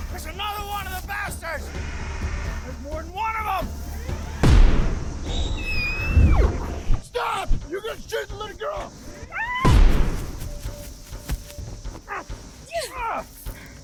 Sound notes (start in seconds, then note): 4.4 gunfire; 5.8 roar, scream; 9.6 gunfire